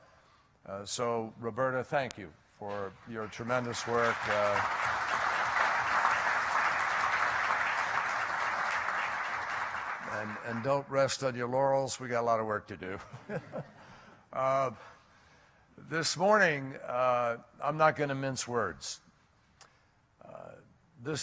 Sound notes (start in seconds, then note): 5.7 applause; 13.0 laughter